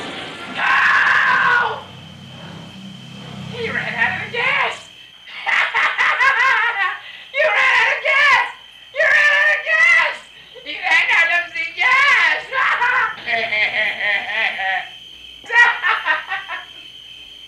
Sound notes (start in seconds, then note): 0.0 screams; 0.0 engine stops; 5.2 laughs; 10.7 bad accent; 12.4 annoying laughs